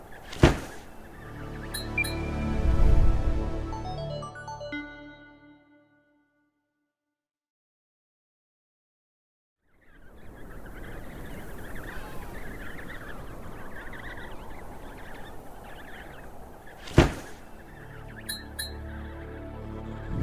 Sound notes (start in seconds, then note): 0.2 metallic "blink" sound effect; 0.4 loud thud; 1.2 musical drone; 1.7 whoosh; 1.7 short uptempo melody; 9.8 wind blowing; 9.9 baby penguins chirping; 16.9 loud thud; 17.8 musical drone; 18.2 metallic "blink" sound effect